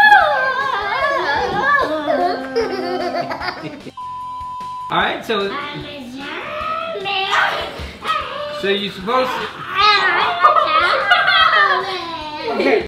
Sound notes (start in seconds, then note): 2.4 giggle; 3.9 beep; 10.4 laughter